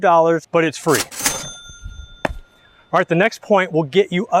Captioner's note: cash register dings